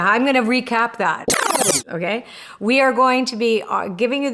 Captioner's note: tape whirring